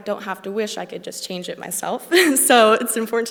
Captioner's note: laughs